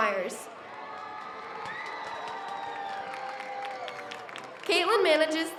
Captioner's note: audience cheers